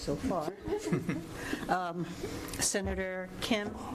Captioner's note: chuckling